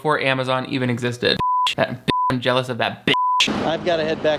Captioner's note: beep